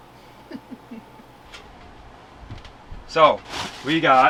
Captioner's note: chuckles